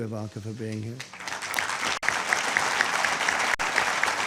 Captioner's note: applause